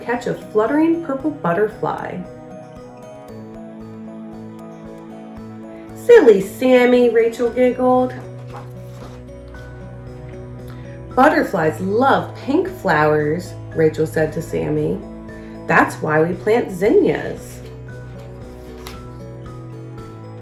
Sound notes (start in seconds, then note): 2.2 uplifting instrumental music; 7.3 uplifting instrumental music; 8.0 pages shuffles